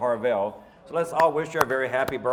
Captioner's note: clapping